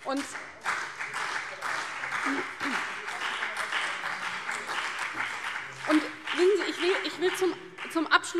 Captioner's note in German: Beifall CDU und BÜNDNIS 90/DIE GRÜNEN